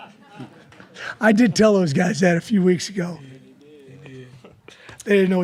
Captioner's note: laughter